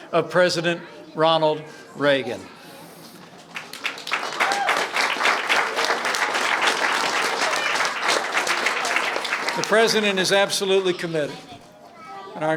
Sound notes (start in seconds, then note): 3.3 applause